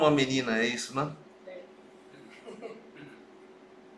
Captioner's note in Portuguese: risos